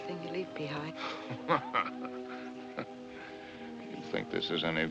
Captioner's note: angry Laugh